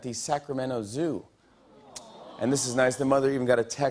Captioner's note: audience "aww"s